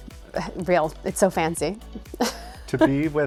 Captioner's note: laughs